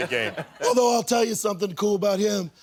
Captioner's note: laughter